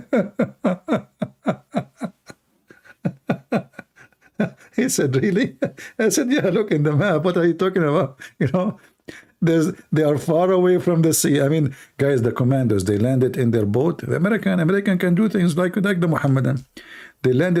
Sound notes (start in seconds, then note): 0.0 Ketawa